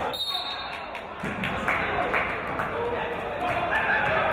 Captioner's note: referee's whistle